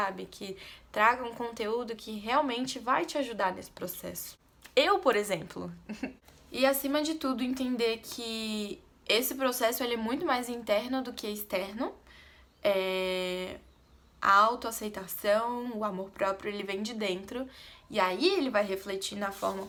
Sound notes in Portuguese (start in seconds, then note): 5.9 risos